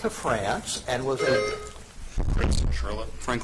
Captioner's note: buzzer chimes